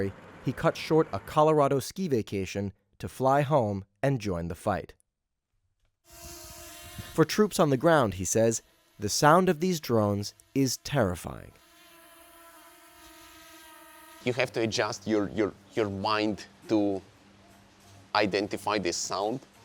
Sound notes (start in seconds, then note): 11.5 drone humming